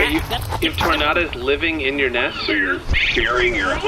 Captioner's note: a tornada snarls and snaps, skitters away